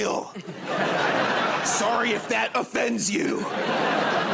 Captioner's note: laughter